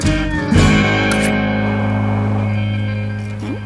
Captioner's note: click